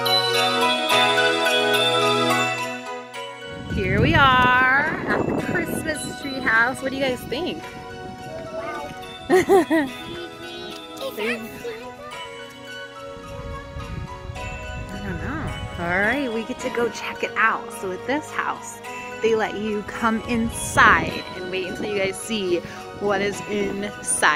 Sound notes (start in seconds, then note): 0.1 cheerful Christmas music; 9.3 laughing